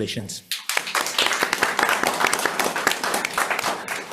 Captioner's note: members applauding